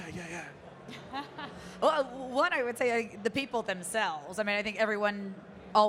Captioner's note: chuckling